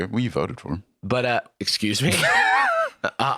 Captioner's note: laughs